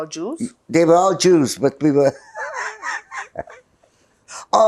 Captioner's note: laughing